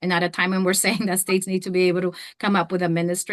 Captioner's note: chuckles